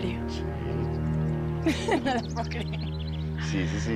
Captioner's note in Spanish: Risas